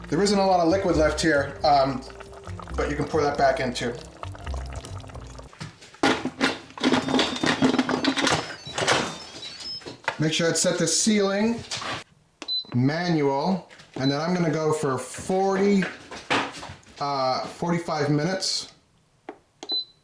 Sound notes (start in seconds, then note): 6.0 lid clatters; 19.6 beeps